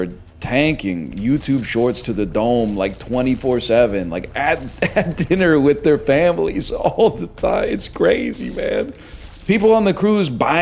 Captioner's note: chuckles